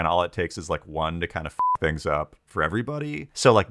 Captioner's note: beep